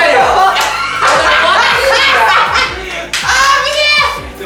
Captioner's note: everyone breaking out into laughter at slowness